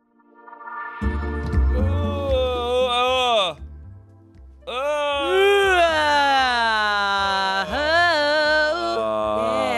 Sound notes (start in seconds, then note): 0.1 chill music; 2.2 yawns; 4.7 yawns and vocalizes